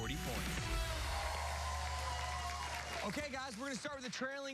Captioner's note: cheers and applause